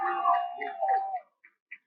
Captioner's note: cheering